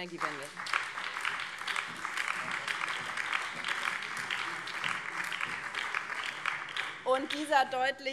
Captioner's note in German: Beifall